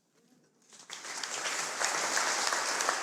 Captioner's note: applause